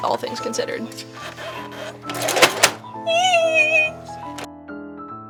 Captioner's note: horrible sewing machine noise, panicked squealing